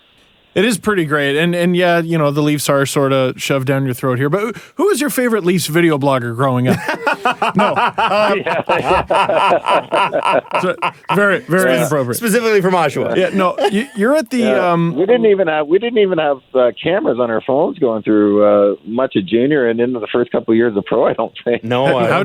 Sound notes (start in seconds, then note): 6.6 trademark laugh